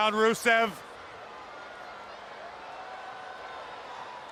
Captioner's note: crowd yelling